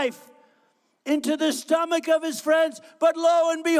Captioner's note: none